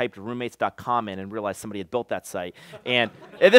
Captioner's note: laughter